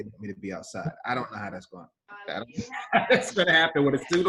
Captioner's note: laughs